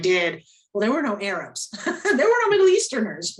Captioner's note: laughs